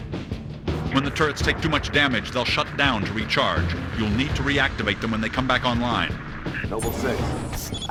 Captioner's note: radio